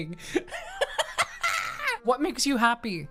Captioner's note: laughing